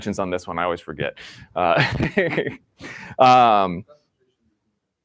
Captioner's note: laughs